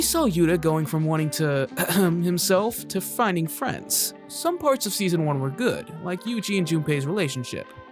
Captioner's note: cough